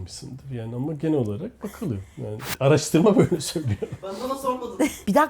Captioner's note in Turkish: kahkaha